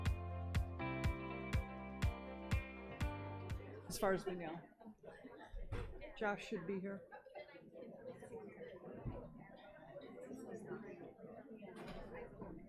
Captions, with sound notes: - As far as we know. Josh should be here. (audience chattering)